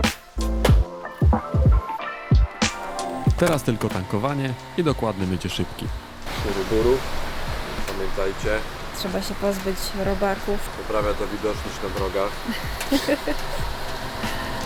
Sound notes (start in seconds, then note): 12.3 laughs